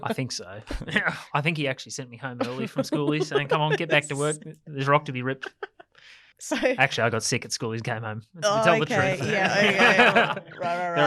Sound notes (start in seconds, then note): 0.0 laughs; 2.4 laughs; 6.2 laughs; 8.4 group laughs